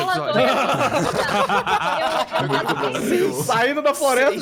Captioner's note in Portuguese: Risos